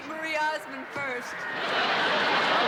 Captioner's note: laughter